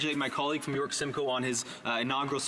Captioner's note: speaking in French